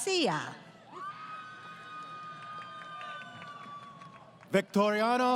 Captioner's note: crowd Cheering